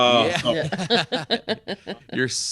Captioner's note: laughing